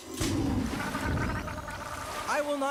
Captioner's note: gurgling